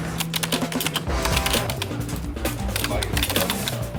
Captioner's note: clicking